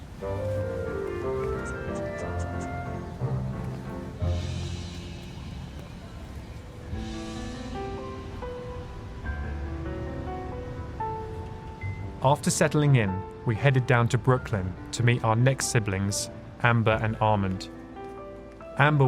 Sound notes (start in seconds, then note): 0.8 squirrel squeaking; 7.5 gentle music